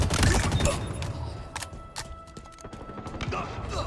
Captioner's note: gun firing